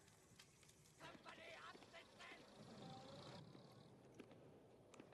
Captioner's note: german shouts